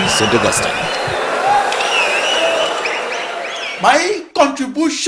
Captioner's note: wild applause and cheering for 22 seconds